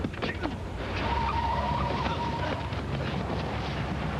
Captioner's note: tires screeching